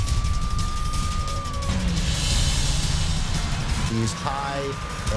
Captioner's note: dramatic music; police siren wails